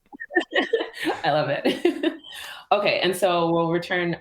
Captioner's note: laughter